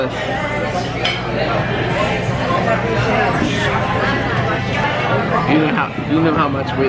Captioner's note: background chatter